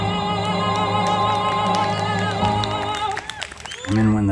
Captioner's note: applause